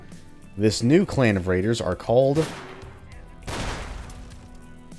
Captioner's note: gunshots